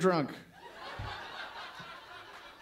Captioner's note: laughter